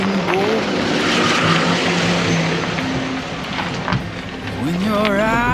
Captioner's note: car engine roaring